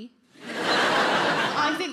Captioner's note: audience laughing